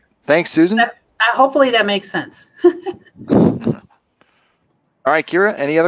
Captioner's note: laughing